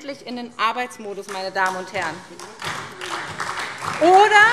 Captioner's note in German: Beifall SPD und DIE LINKE